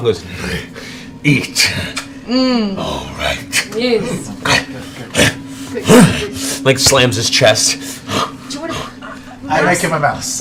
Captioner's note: grunts